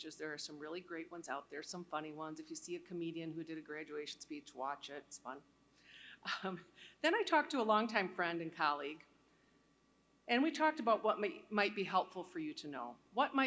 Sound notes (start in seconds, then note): 5.5 laughter